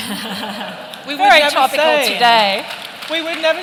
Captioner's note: laughter